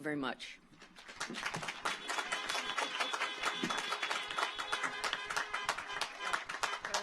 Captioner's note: audience applauds; car horns honking